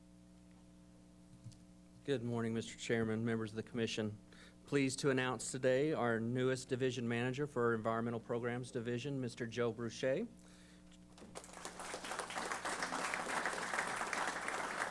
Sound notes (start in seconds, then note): 11.1 applause